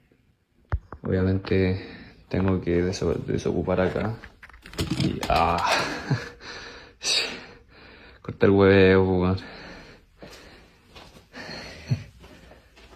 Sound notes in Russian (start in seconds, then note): 5.7 смех